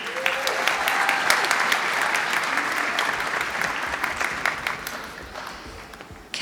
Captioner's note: applause